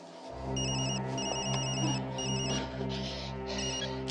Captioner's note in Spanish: Suena un celular